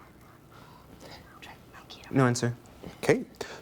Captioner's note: team whispering